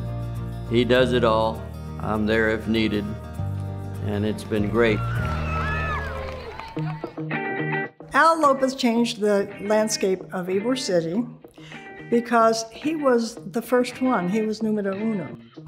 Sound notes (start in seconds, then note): 4.6 players cheering; 6.9 upbeat music